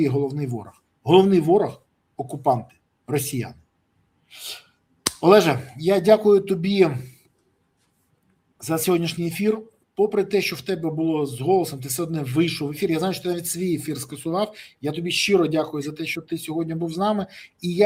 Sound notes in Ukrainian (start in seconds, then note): 4.3 сопіння